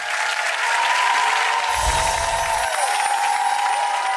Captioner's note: applause